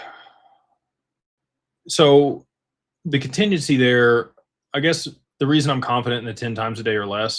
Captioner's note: sighs